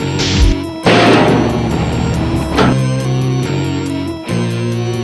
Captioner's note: dumbwaiter clanking